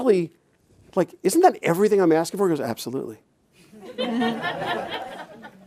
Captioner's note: chuckles